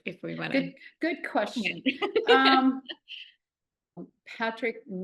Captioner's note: chuckling